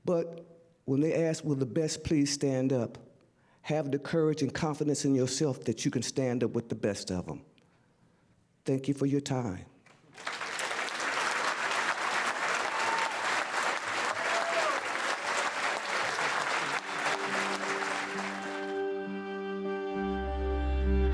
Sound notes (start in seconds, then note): 10.1 large audience applause; 18.2 soft music